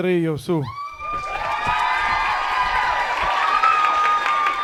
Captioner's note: audience cheering